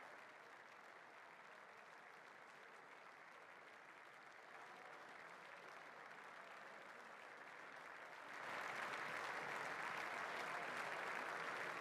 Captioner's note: applause